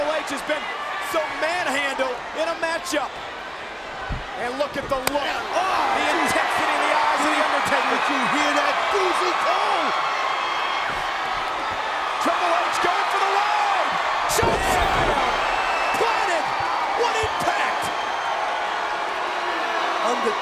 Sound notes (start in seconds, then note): 6.6 overlapping chatter; 8.1 group gasping